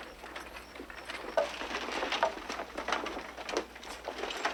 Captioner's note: wagon rattling